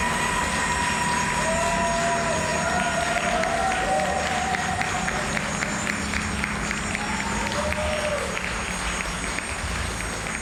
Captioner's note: applause and cheering